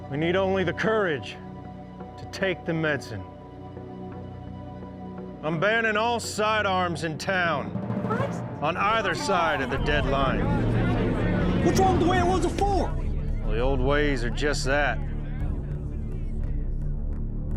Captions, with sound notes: WE NEED ONLY THE COURAGE TO TAKE THE MEDICINE. I'M BANNING ALL SIDE ARMS IN TOWN... [PEOPLE ANGRILY CHATTER] ON EITHER SIDE OF THE DEADLINE. WHAT'S WRONG WITH THE WAY IT WAS BEFORE? THE OLD WAYS ARE JUST THAT.